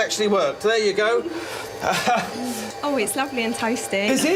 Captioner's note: laughing